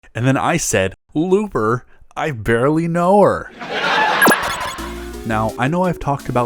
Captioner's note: laugh track